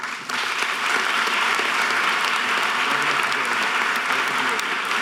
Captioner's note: audience applause